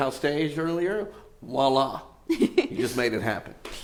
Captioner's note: giggles